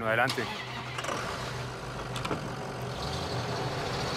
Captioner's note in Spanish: Ruido del vehículo